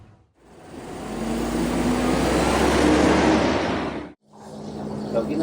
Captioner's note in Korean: 버스가 부우웅~ 하고 가는 소리가 난다